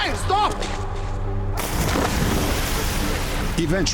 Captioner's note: splash